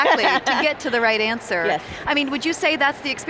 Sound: laughs

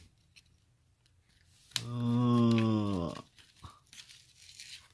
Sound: exclaims

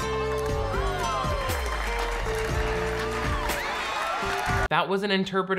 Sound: crowd clapping; crowd gasping

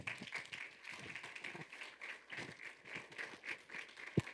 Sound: audience applauding

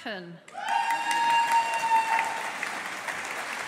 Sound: audience applauding

